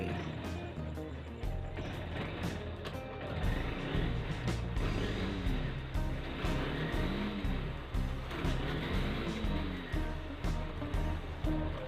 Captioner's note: bike sound